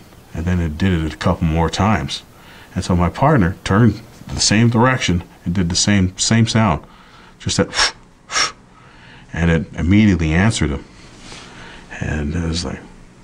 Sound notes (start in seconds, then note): 8.7 breathing sound